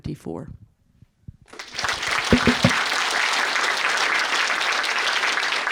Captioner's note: audience applauding